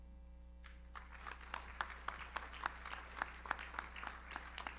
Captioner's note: audience applauds